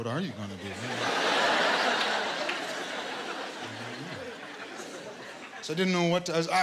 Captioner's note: laughter